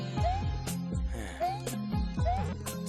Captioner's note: sigh